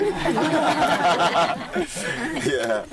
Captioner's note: laughter